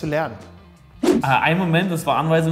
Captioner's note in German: woosh